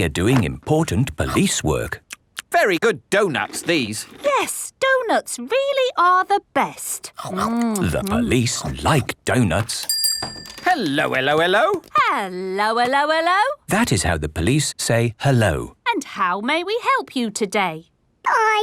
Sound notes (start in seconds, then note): 2.8 munching; 9.8 bell rings